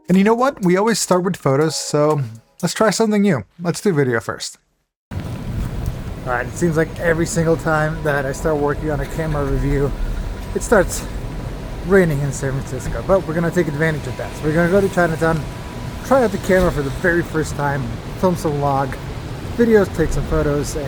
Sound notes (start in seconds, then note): 5.2 rain plinking